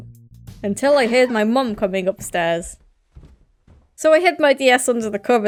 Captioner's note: footsteps